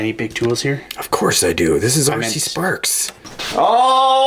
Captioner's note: voiceover